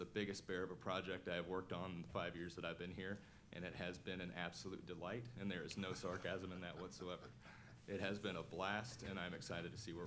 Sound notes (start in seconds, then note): 5.8 laughter